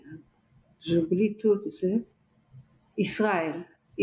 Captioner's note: french